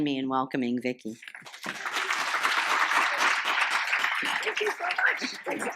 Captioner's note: applause